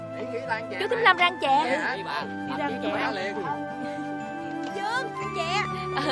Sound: chattering

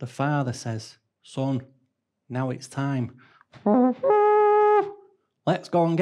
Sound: trumpet sound effect

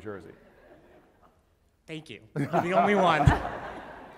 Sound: laugh

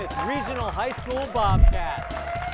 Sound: applause

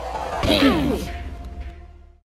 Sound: groans

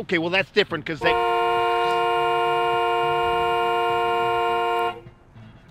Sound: honking

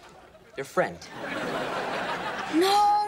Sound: laughing

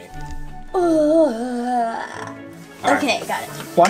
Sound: assistant groans

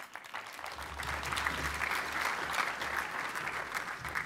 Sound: applause

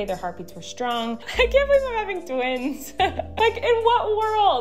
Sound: laughs

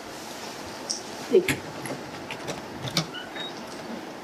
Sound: door unlocking

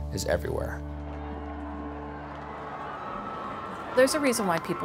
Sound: crowd cheering

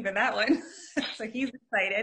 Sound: chuckling

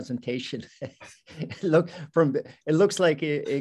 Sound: both laughing

